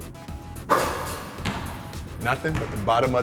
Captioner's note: upbeat music; basketball falling through rim and net